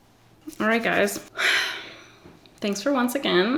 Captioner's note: sighs